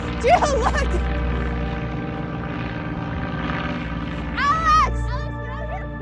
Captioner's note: airplane engine roaring